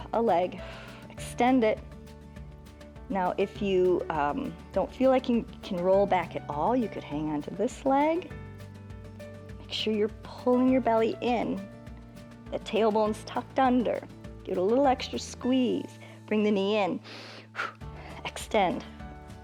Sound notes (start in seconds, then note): 17.0 inhales and exhales